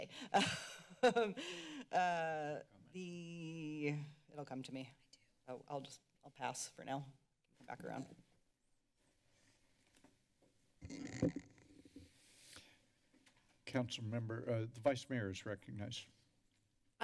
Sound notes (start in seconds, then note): 0.3 laughter; 10.9 mic rustling; 11.7 deep breathe